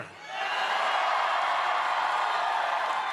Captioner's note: cheering